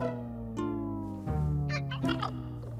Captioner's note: chittering